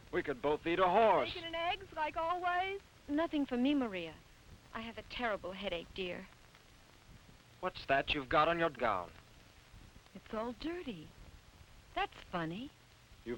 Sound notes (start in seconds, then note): none